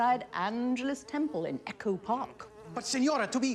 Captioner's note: fly buzzing